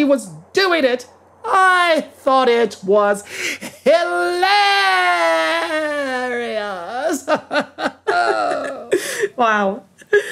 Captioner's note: laughs